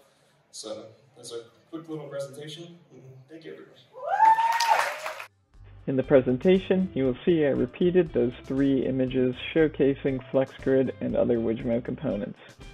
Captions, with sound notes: So, that's our quick little presentation. Thank you, everybody. [Applause] In the presentation, you will see I repeated those 3 images showcasing FlexGrid and other Wijmo components.